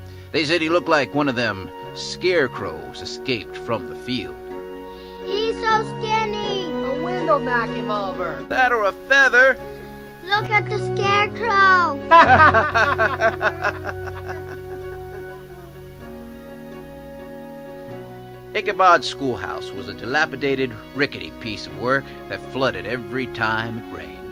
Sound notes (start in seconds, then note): 11.2 children laughing